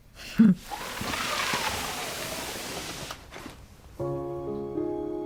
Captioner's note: sliding basket